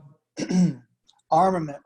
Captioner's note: clears throat